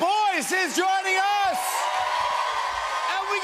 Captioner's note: cheers and applause